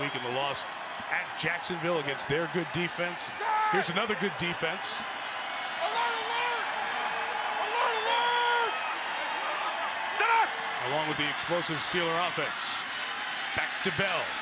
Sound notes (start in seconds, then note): 5.7 football players yelling